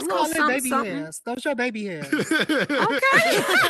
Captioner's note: laughing